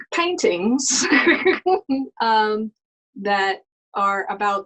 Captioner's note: laughing